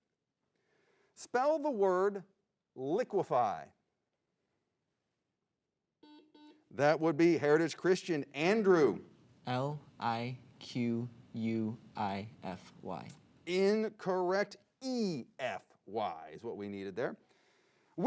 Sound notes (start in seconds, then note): 6.0 buzzing